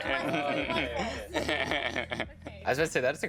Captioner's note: laughing